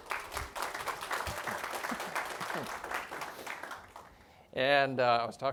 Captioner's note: audience applauding